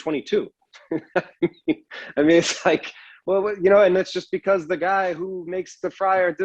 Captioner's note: laughs